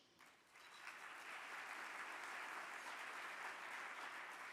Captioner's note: audience clapping